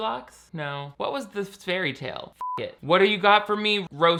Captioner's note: beeps